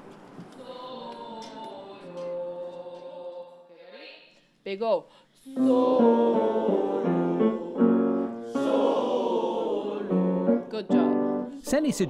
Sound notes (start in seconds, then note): 0.6 vocal exercises; 5.8 class vocalizes